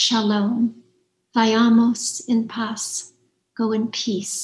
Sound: speaks in foreign language

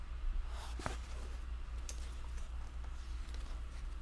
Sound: soft clatters

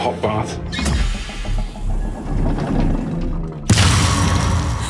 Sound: clanging; gasps

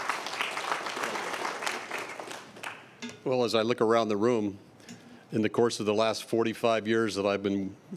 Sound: applause

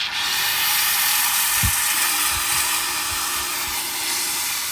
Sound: steam hissing

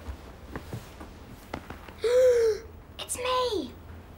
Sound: Jack gasping; patting; sighing

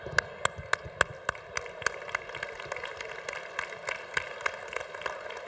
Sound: congregation applauding

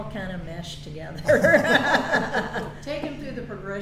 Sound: all laugh

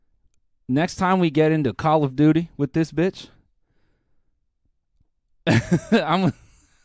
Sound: laughs

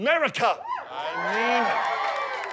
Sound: audience cheers

